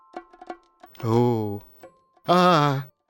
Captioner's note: sound of intrigue; sound of slight concern